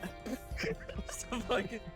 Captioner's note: laughs